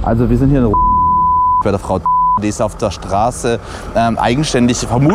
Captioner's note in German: Piepton